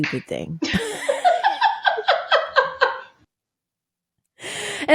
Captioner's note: both laughing